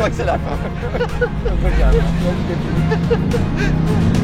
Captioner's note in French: Rire